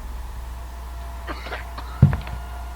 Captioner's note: coughing